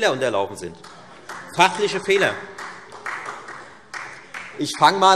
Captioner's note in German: Beifall